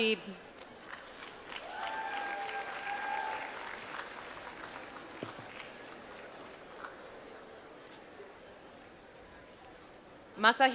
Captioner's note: applause